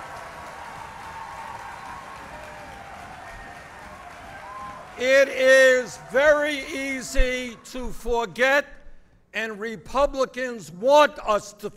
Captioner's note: applause